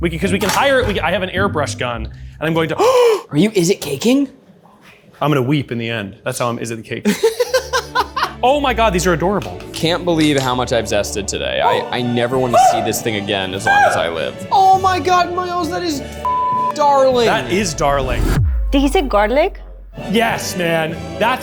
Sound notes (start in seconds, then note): 2.7 gasps; 7.0 laughs; 12.1 triumphant music